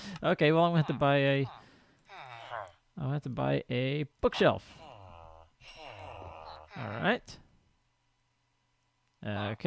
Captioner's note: chattering continues